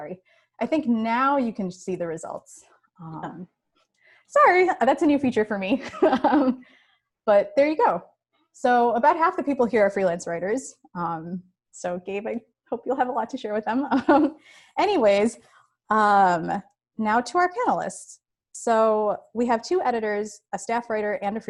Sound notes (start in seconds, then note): 5.8 chuckles